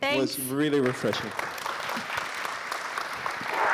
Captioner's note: applause